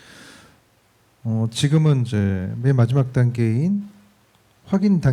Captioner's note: speaking korean